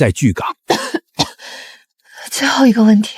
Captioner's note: cough cough